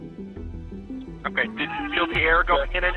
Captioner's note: cries